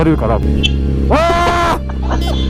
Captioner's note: honk